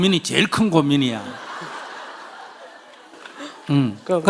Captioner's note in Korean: 청중 웃음